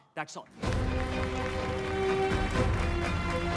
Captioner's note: Clapping